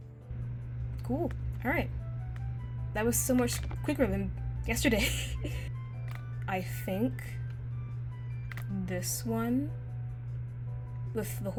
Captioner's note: chuckles